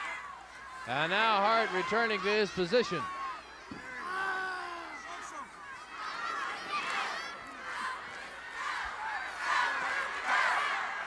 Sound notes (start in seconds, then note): 4.1 The Great Kabuki yells; 8.0 audience cheering